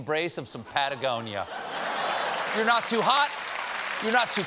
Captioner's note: laughter; applause